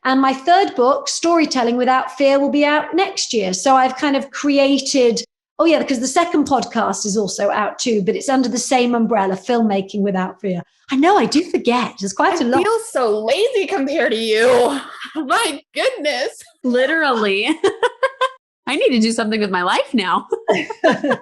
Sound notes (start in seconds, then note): 17.2 laughing; 20.4 all laughing